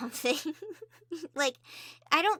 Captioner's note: cute giggles again yay